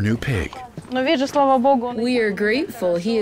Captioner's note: speaking in foreign language